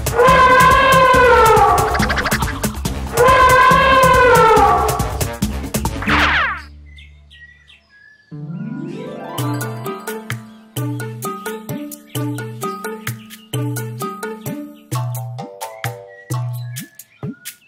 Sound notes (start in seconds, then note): 0.0 elephant trumpets